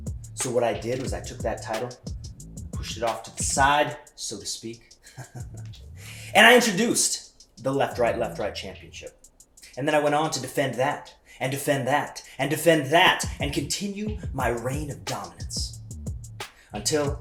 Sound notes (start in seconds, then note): 5.0 laugh